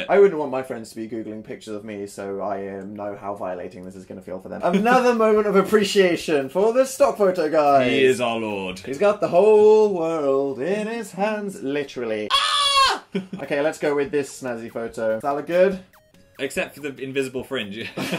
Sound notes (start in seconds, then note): 8.9 singing; 12.2 screech